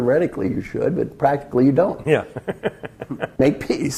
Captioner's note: laugh